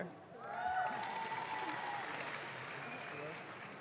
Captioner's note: audience claps